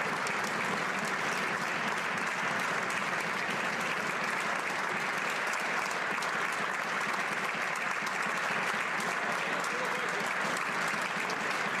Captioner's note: applause